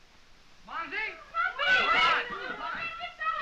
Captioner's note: girls speaking french